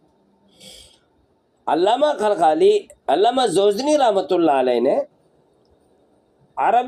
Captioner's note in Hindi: नाक से की जाने वाली आवाज़